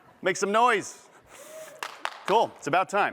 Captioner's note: cheers